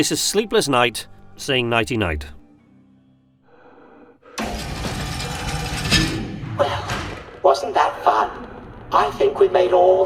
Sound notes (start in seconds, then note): 3.4 breathing